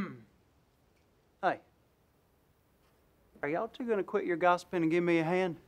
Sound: clears throat

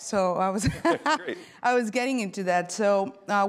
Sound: laughs

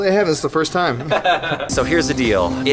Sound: laughs

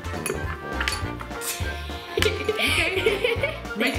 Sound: laughs

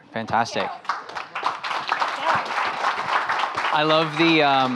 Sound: audience applauding

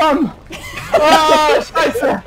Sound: laughing

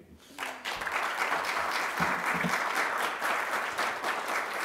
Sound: applause

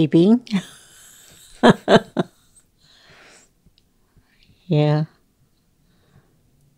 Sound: laughter

